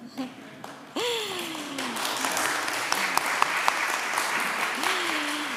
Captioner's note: applause